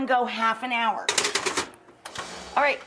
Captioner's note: metal tapping